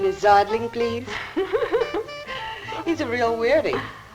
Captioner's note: laughing